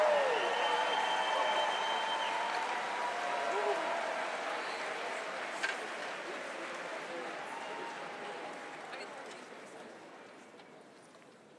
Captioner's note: applause